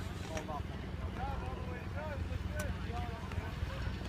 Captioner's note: helicopter rumbling